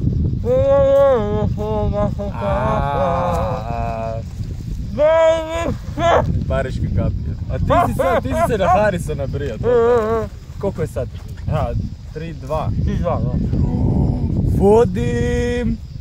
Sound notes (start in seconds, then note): 4.7 yelling